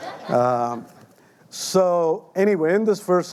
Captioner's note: audience laughing lightly